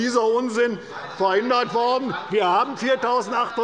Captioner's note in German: Zurufe der FDP